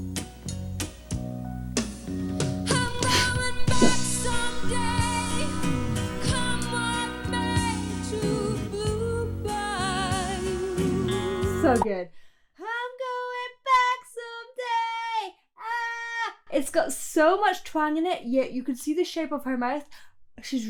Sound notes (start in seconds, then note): 0.3 low rhythmic music; 2.7 laughing